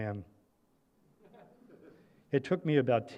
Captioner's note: laughter